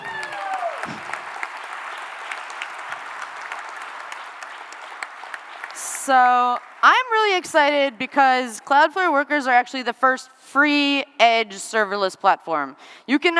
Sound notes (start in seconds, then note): 2.7 cheering and applause